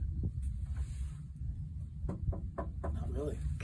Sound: knocks on wood

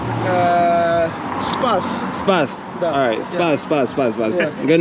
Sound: speaking in Turkish

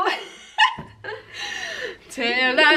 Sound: laughing

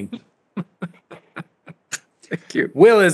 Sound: laughter

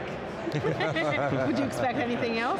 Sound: laughs

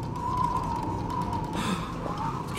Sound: gasp

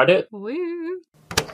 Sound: tape recorder clicks on

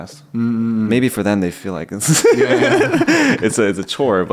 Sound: laughs

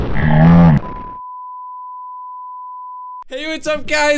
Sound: beep

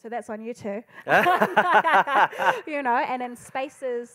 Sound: panellists laughing

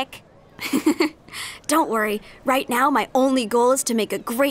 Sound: laughs

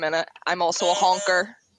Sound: beep, beep

